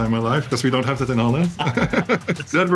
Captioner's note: chuckling